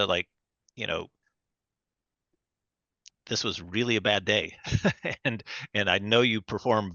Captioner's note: laughs